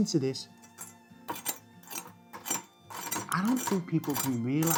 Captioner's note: knife scrapes